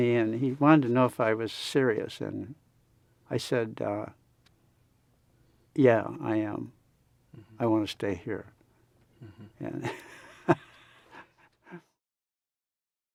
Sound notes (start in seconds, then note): 9.2 laughs